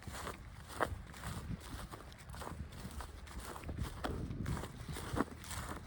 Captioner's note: footsteps and distant tractor noise